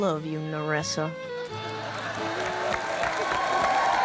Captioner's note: applause